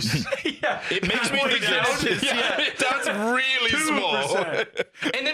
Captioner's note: laughing